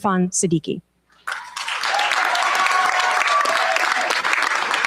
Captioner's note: cheers, applause